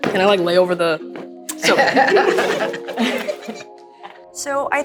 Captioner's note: everyone laughing